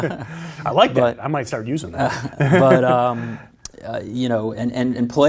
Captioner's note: laughs; laughs